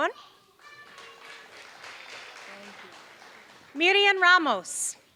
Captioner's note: applause